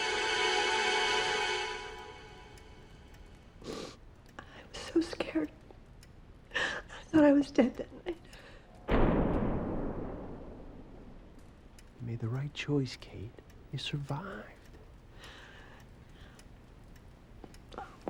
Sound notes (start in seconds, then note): 3.6 sniffles